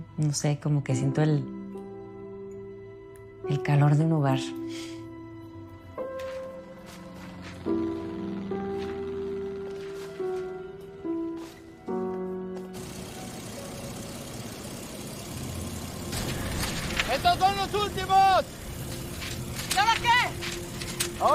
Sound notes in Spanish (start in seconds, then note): 7.2 Ruido de un motor